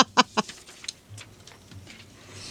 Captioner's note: laughing